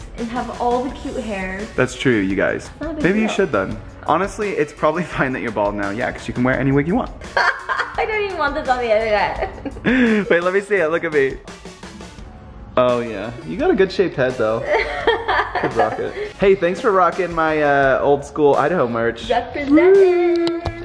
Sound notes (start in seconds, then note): 7.3 laughing; 14.6 laughing